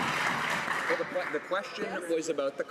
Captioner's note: some Applause